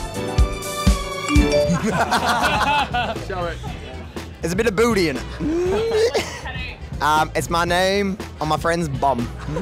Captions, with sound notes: (phone chiming) (group laughing) - Show it. - There's a bit of booty in it. It's my name on my friend's bum.